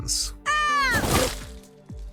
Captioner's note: shouts